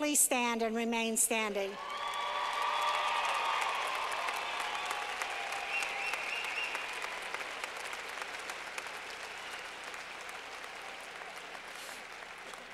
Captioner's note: clapping